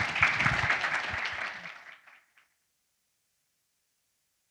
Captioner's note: audience applauds